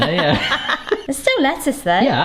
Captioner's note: both laugh